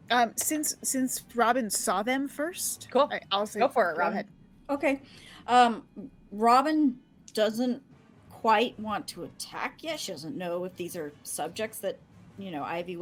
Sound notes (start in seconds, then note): none